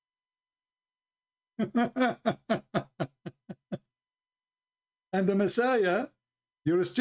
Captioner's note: Ketawa